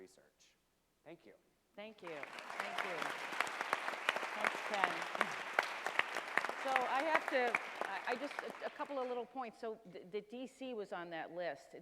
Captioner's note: applause from panel and audience